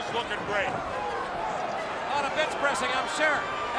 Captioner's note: crowd cheering